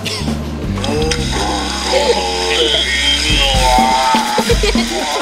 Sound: man groaning on computer

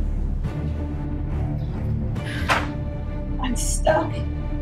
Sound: sighing; book slams onto table

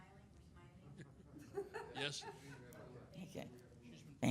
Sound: laughing

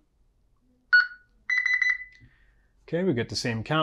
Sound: beeping

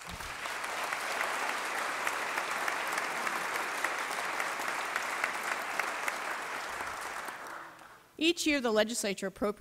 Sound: applause

